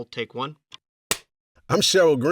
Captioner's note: slate claps